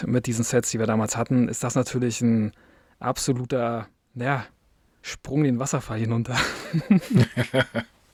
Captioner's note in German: gelächter